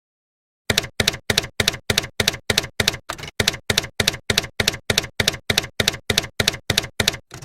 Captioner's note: typewriter keys clacking